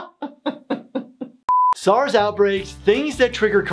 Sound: laughing; beep

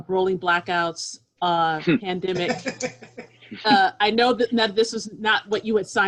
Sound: laughter

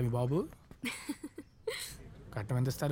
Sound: laughs

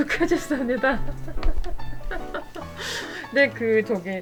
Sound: laugh

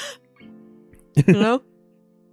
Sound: chuckles

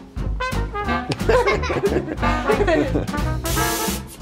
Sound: laughter

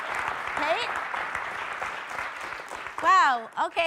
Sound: audience applauds

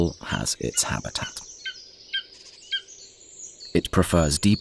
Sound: sounds of nature

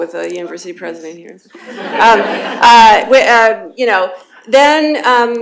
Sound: laughter

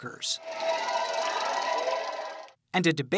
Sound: cheering

